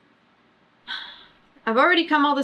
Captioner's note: sighs